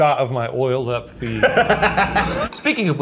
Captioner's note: Ryan laughs